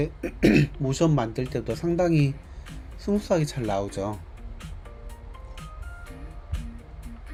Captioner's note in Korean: 목을 가다듬음